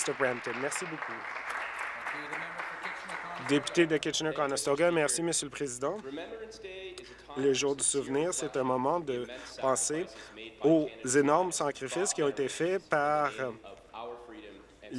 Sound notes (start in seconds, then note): 2.8 applause